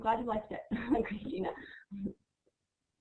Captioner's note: laughter